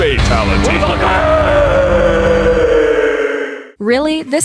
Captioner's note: screaming